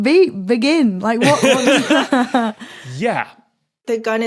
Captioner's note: laugh